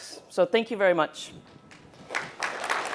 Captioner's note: applause